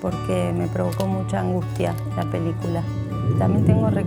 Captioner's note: creaking, water running